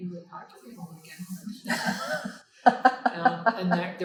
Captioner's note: laughing